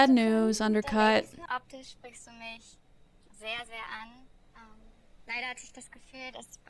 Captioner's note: speaking in German